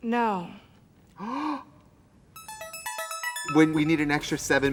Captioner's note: Trixie gasps